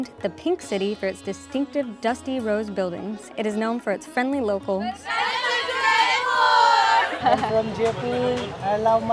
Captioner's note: applause